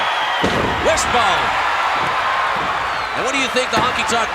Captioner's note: audience cheering